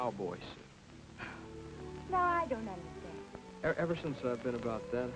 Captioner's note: chuckles